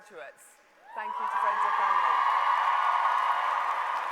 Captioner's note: applause